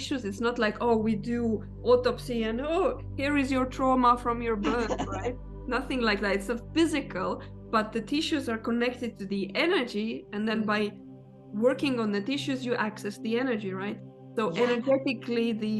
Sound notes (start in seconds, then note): 4.6 laughing